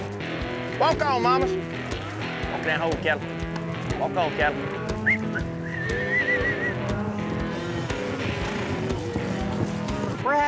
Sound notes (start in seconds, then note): 4.9 whistling; 7.0 cattle moo